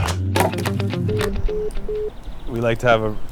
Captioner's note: voicemail beeping